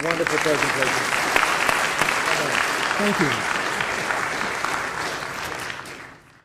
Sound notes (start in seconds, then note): 2.6 applause